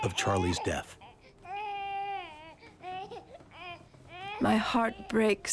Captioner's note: baby crying